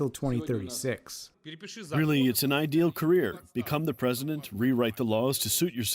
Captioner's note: through translator